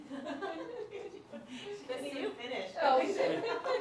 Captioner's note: laughter